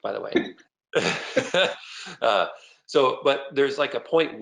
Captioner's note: laughter